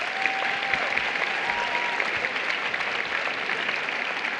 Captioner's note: applause